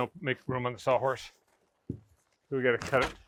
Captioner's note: none